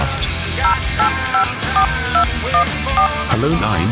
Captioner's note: cell phone dial